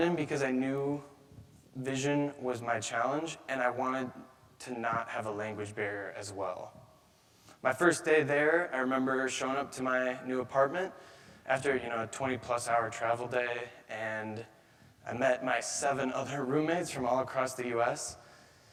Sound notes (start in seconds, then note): none